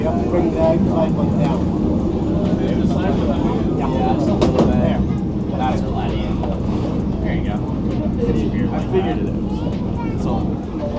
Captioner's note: crowd chattering